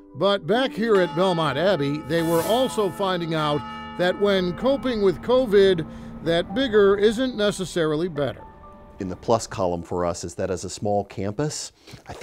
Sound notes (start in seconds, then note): 1.8 bells ringing